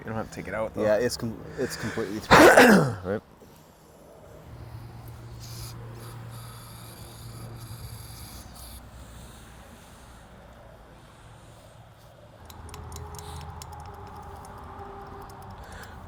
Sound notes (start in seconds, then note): 1.6 man coughs; 4.3 traffic passes